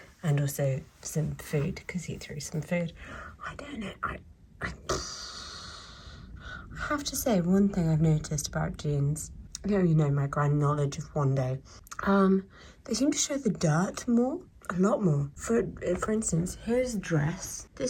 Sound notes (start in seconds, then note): 4.7 sighs